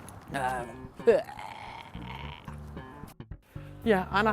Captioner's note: grumbles